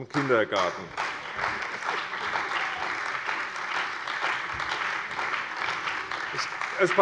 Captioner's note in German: Beifall bei der CDU und dem BÜNDNIS 90/DIE GRÜNEN